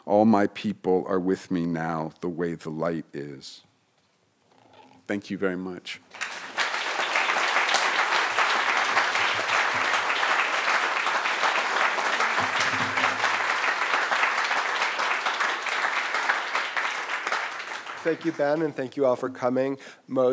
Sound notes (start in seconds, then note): 6.6 audience applause